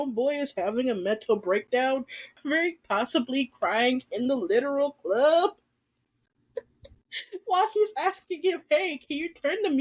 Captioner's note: laughs